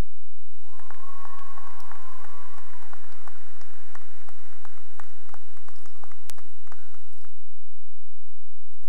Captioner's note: cheering and applause